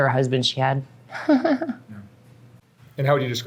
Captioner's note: chuckles